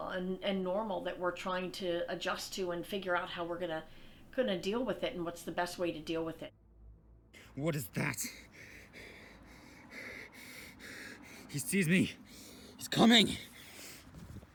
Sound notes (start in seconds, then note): 10.8 panting